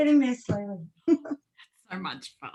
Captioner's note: laughing